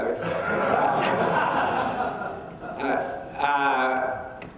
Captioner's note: laughing